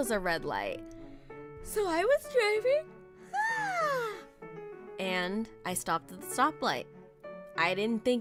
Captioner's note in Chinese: 打呵欠